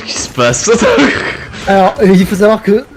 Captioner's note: laugh